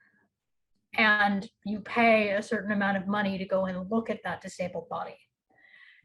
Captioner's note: none